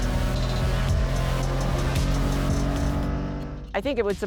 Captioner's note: engine revving